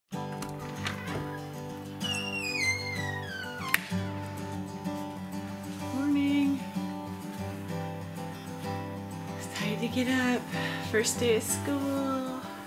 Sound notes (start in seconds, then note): 0.0 soothing guitar music; 1.8 door creaking; 3.6 light switch clicking